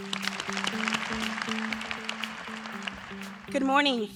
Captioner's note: applause